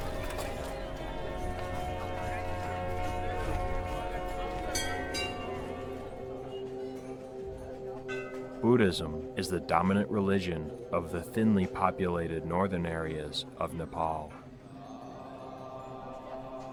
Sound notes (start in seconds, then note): 0.3 gentle upbeat music; 4.3 bell ringing; 4.8 gentle music